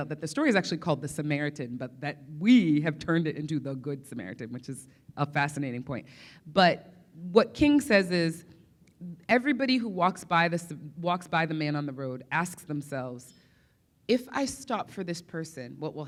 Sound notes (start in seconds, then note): none